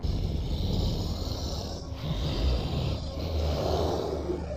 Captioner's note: beast snarling